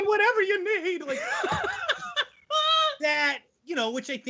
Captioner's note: laughing loudly